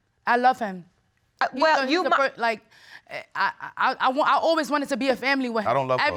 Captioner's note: stammers